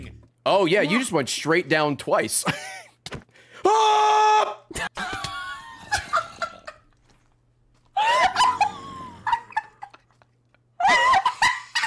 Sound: screams; laughs

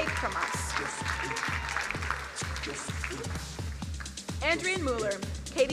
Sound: crowd applauding

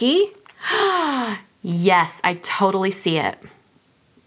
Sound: gasps

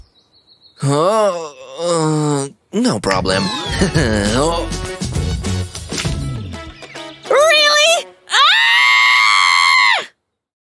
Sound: angry screaming

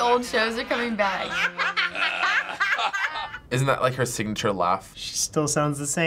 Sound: Roseanne laughing

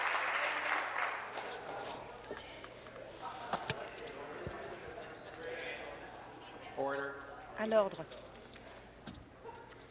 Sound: applause

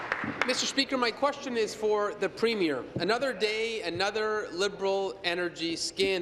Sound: applause

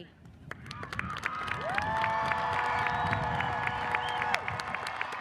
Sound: audience cheers and applauds

